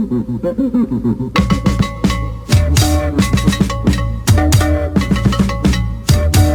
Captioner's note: cowbell